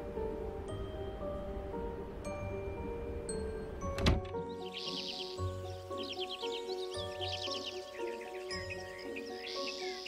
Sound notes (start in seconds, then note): 3.9 door shutting; 4.2 birds chirping